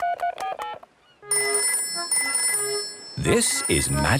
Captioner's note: dial tone; phone rings